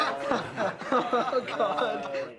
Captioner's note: laughter